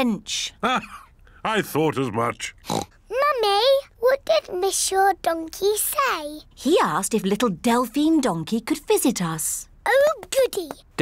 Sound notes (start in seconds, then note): 2.6 oinks